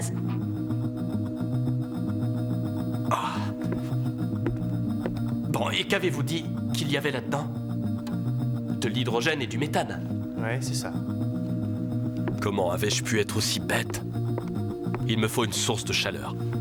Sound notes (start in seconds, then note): 3.1 gasps